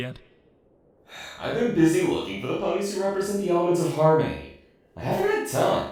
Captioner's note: sigh